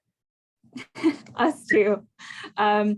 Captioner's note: laughs